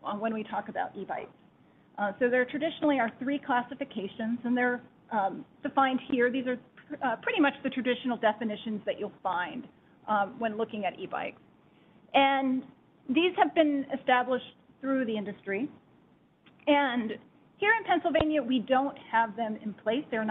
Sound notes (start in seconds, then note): none